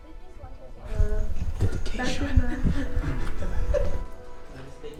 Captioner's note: whispers